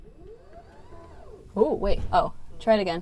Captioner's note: whirring